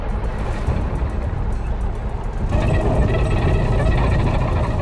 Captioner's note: tanks rumbling